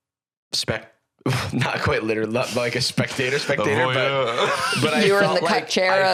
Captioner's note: laughs